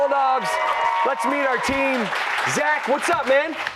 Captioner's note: cheers and applause